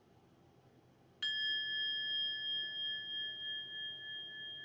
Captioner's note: bell chiming